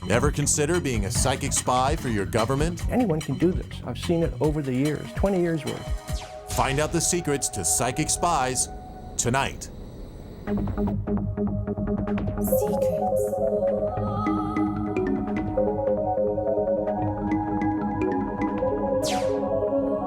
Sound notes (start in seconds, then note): 10.7 suspenseful music; 12.5 ghostly Female Voice; 14.2 suspenseful music